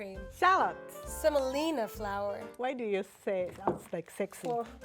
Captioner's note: none